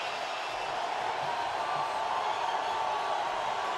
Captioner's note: cheering